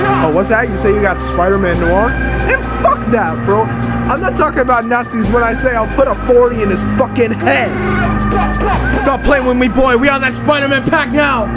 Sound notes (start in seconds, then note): 8.3 grrrrrrrrrrrrrrr bah bah bah